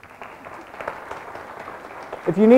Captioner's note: everyone clapping